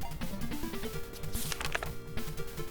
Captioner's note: page rustle who turns